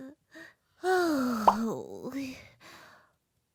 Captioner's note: sigh